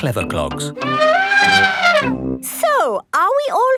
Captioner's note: trumpeting